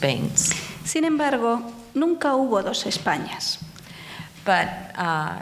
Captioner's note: speaking in foreign language